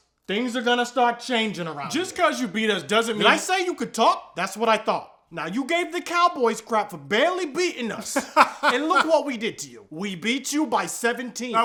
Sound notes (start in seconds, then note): 8.0 laughing